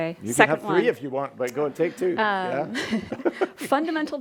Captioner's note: chuckles